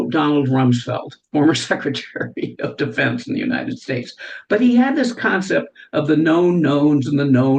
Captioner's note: laughs